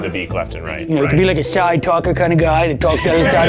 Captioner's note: in puppet voice